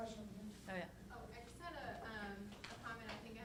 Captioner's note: voiceover